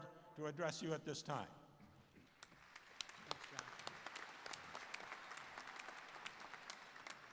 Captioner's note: cheers and Applause